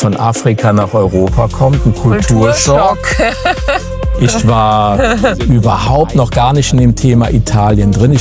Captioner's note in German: gelächter